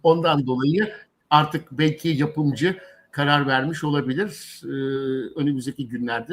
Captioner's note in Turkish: homurdanır